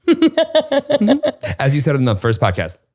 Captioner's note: laughs